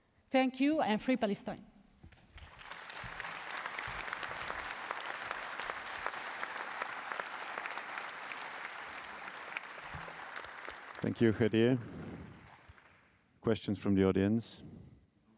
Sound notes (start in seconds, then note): 2.0 applause